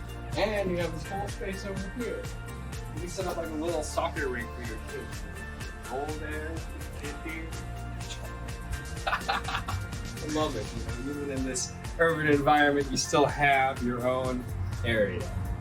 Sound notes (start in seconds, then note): 8.9 laughs